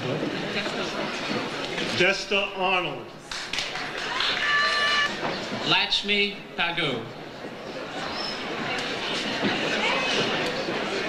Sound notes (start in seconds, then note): 3.2 audience applauds; 7.5 overlapping chatter